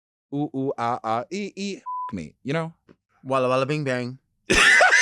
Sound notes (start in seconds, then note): 1.8 beep